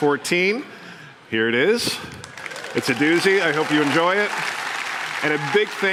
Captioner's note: applause